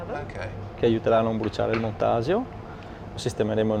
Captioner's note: speaks dialect